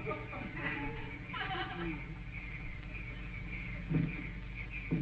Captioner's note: audience snickering